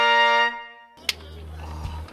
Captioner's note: snaps